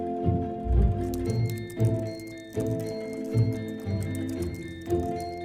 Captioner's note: typewriter clicking